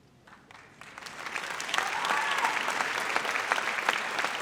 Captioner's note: audience applauds